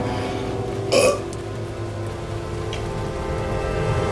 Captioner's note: gasping; burp